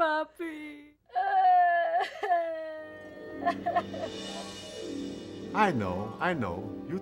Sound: Veronica cries

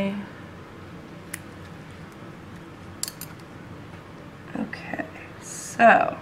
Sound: scissor-clipping noises

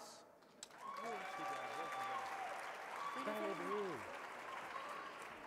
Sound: audience cheering

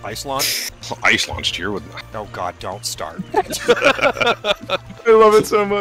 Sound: laughter

